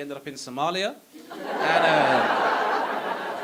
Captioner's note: audience laughing